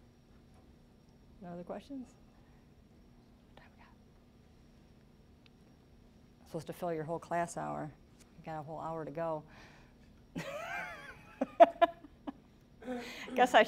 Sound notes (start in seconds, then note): 3.2 whispering; 11.2 laughing